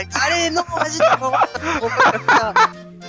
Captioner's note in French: rires